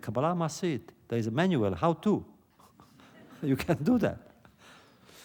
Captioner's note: laughter